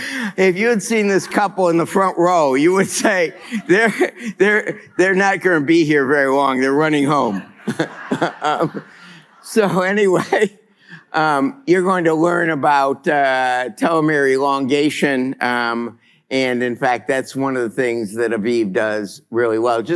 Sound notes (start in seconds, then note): 7.3 laughter